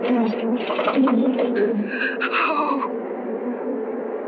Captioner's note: engine stops